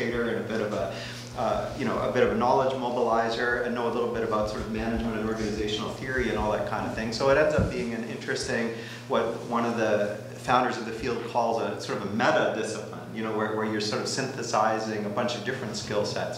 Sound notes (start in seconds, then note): none